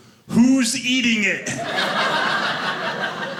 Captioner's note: audience laughing